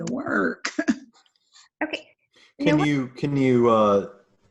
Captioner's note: laughs